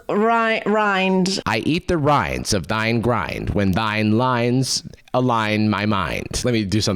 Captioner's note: mimicking VO